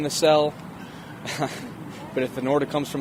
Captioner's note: laugh